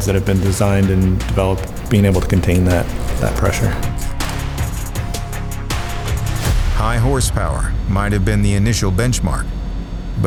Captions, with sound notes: that have been designed and developed, being able to contain that, that pressure. (scene whooshes) - High horsepower, might've been the initial benchmark,